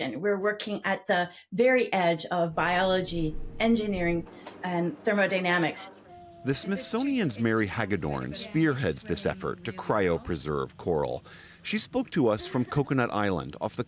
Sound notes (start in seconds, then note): 7.0 voice-over